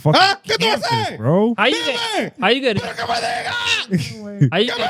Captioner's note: speaking In Foreign Language